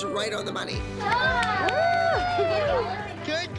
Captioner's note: cheering